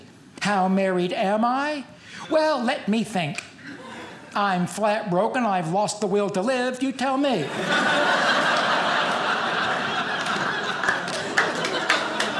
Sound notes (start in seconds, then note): 7.4 audience laughing